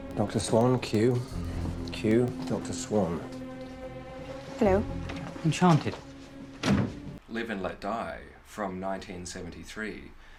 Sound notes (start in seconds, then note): 6.6 thud